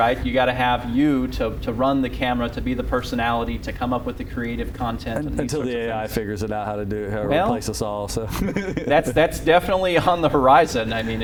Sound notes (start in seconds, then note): 8.2 laughter